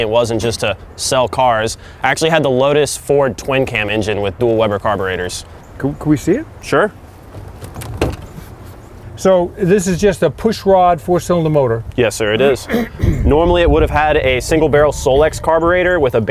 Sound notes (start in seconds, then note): 7.2 car hood clicks; 12.4 clears throat